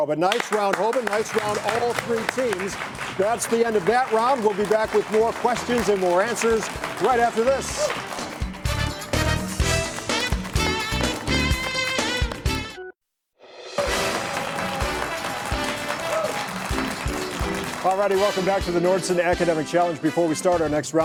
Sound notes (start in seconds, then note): 7.0 audience clapping; 8.2 outro music; 13.7 audience applauds